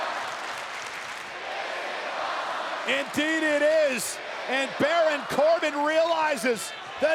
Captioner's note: applause